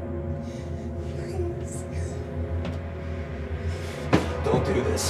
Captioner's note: sobs